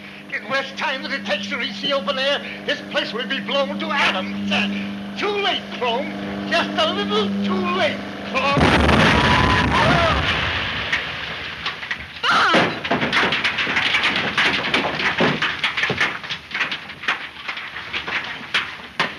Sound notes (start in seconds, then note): 8.4 explosion booming; 8.5 men screaming; 13.0 debris clattering